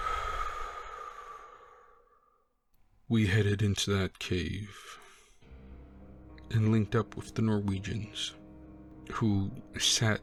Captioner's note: takes a deep breath